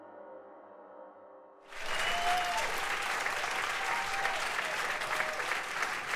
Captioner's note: applause